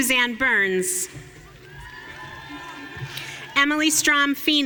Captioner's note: audience cheering